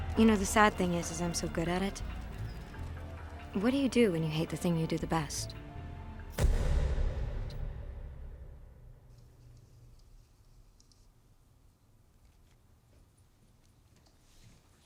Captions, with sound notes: You know, the sad thing is I'm so good at it. What do you do when you hate the thing you do the best? (deep echoing thump)